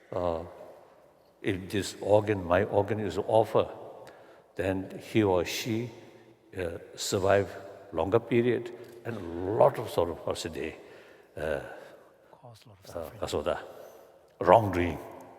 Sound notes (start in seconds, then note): 11.3 foreign language